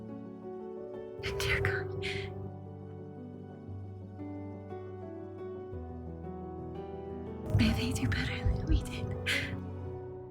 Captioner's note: voiceover